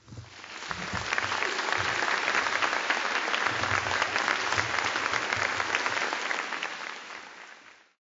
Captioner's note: applause